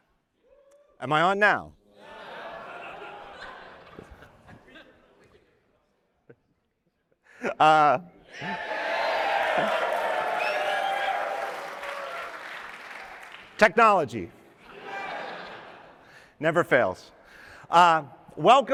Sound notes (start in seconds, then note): 2.0 laughter